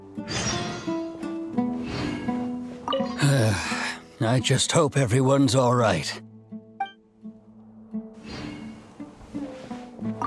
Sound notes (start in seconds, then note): 3.2 sigh